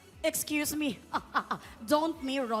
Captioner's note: chuckles